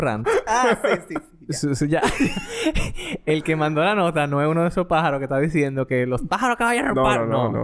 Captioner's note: laughs; laughs